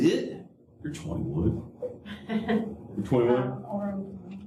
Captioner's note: laughter